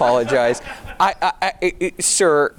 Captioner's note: audience laughing